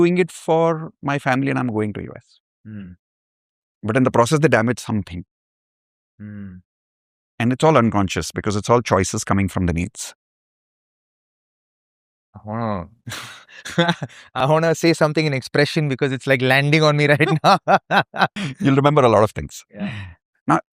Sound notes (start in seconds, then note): 13.1 laughter